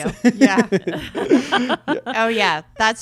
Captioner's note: laughs